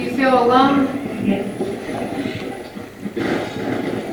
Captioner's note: radio voice